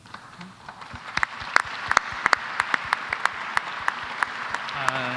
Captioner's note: applause